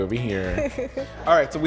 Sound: laughs

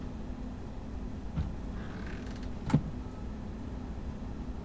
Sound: doors shutting

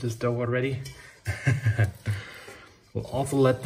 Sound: laughs

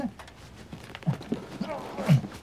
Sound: grunts

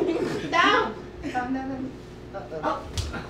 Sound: audience laughing

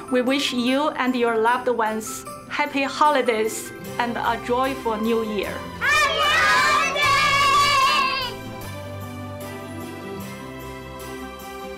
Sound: cheering

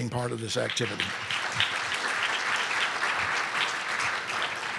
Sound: audience clapping

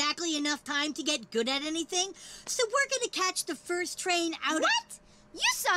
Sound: none

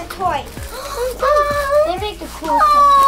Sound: gasps

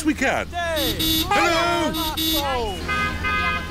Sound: honking; italians honk back

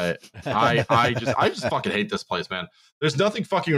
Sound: laughter

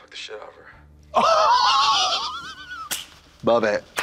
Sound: Katya wheezes and claps

